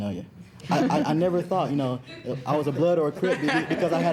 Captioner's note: students chuckling